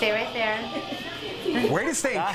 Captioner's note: laughter